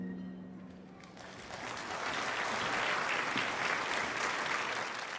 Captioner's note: audience applauding